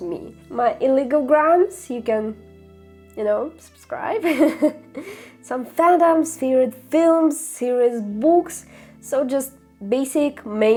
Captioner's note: laughter